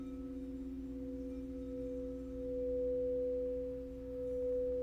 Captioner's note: high pitch tone